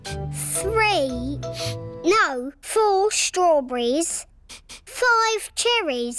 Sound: sniffs

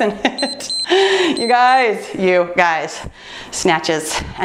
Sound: timer beeps

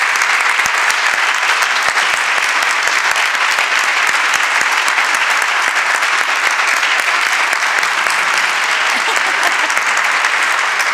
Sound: applause

